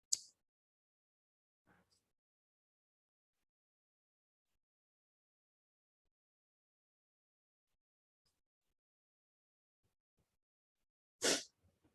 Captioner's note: no audio